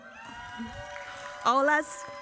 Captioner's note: audience cheering